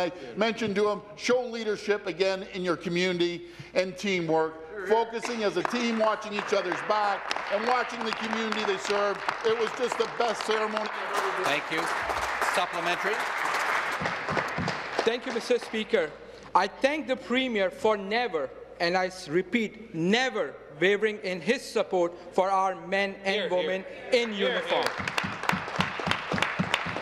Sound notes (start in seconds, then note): 15.1 applause